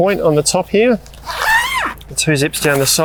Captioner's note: zipper zipping